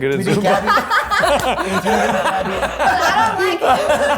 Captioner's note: laugh